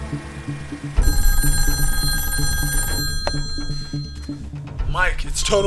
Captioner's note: phone ringing